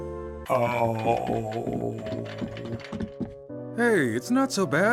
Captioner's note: Driller moans sadly